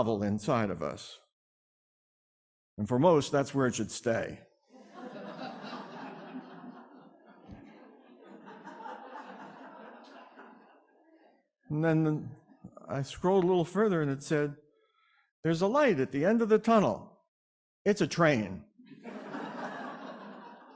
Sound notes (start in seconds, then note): 10.6 laughing